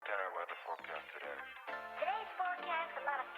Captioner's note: voiceover